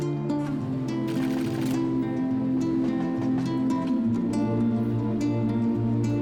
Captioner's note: destination board clacking